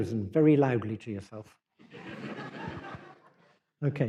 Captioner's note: laughter